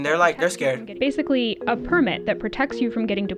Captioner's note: voice-over